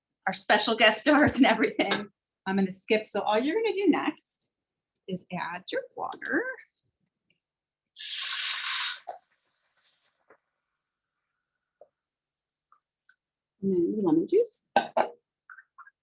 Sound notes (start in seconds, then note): 8.0 pan sizzles